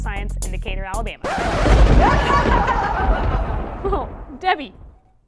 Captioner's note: record scratch, thunder & maniacal laughter